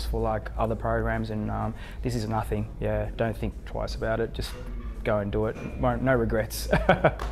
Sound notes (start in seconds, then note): 6.7 laughs